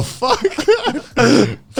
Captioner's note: laughing